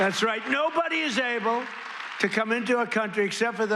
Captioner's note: cheers and applause